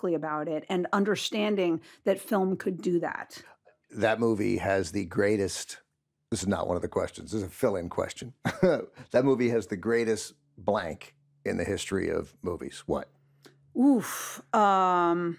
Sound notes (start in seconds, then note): 8.4 chuckles